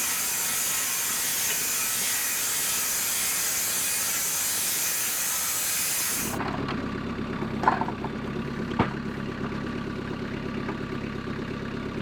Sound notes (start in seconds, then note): 6.8 engine revving